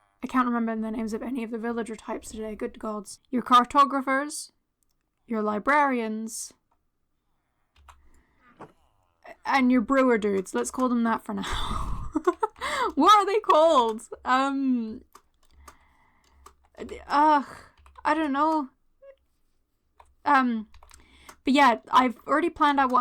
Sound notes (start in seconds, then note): 11.4 laughter